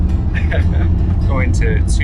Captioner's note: laughs